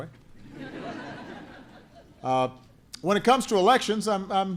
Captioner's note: laughter